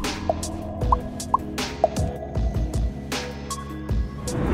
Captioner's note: bubble popping